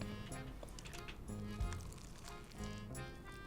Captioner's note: munching